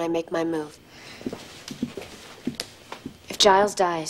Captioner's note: footsteps